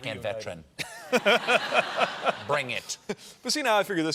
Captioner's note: laughter